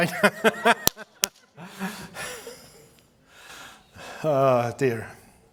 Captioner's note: laughing